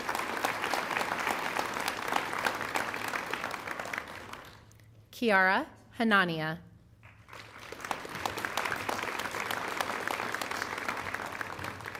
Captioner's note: applause